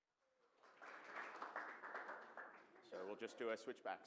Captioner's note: applause